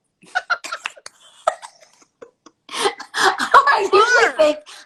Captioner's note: laughter